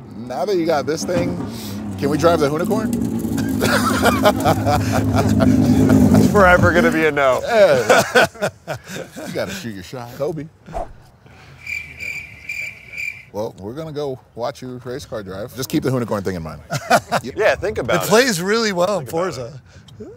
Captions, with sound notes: Now that you got this thing, can we drive the Hoonicorn? [Laughter] It's forever going to be a no. You got to shoot your shot. Kobe. [Chirping crickets] Well, we're going to go watch your race car drive. Just keep the Hoonicorn thing in mind. - Yeah, think about it. - It plays really well in Forza.